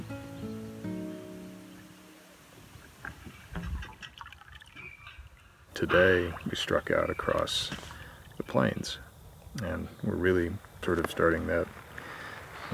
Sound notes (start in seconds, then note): 0.0 tranquil music; 4.6 windmill creaking